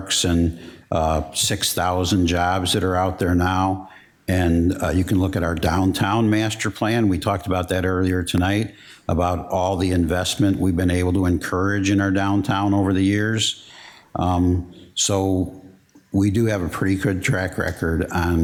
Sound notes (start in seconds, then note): none